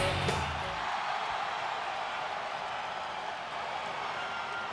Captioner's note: audience cheers